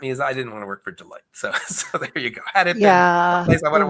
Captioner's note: chuckles